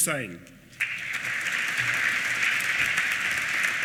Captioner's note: applause